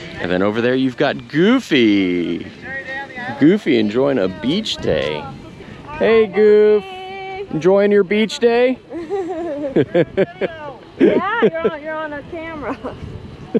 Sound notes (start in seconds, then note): 8.9 both chuckling